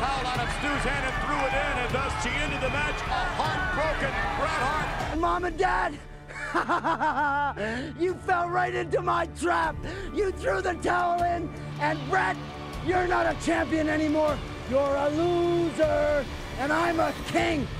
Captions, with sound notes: out of Stu's hand and threw it in, and thus she ended the match. A heartbroken Bret Hart. - Mom and Dad... [laughs] You fell right into my trap. You throw the towel in, and Bret, you're not a champion anymore. You're a loser, and I'm a king.